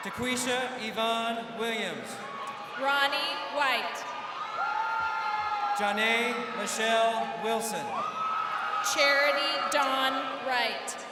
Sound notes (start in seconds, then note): 4.5 crowd cheering